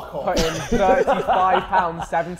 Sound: Sidemen laughing

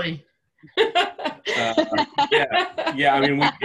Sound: laughs

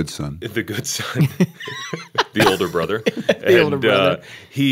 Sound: laughter

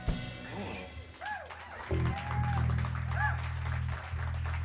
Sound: cheers and applause

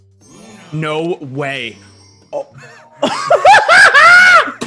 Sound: laugh

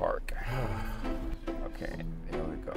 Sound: son sighs

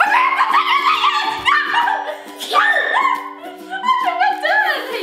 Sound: fun screaming

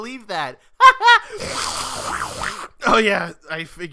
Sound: aggressive coffee slurping

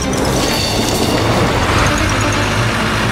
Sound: angry truck noises

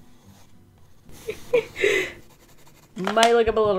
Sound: laughs

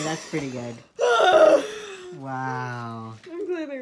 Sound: deep, gasping laughter

